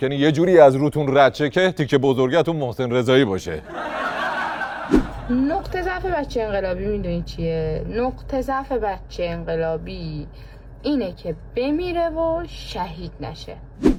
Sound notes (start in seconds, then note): 5.4 laughter